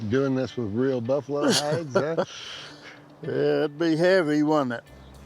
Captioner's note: laughs